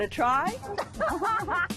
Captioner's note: laughs